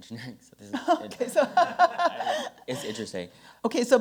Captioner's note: laughs